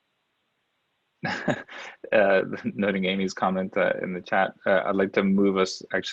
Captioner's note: chuckles